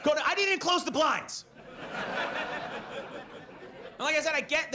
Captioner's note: audience laughs